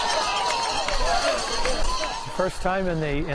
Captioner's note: bell ringing; crowd cheering